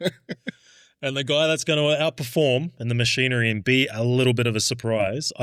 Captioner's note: laughing